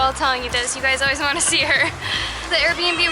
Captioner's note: laughter